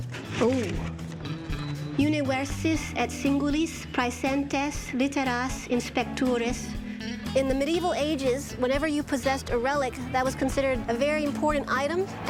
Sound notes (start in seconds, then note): 1.4 reciting Latin